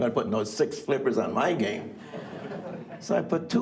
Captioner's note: audience laugh